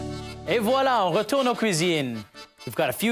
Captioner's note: french words